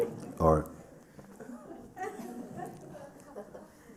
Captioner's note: laughter; laughter